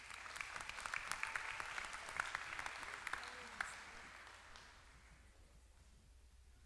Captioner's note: applause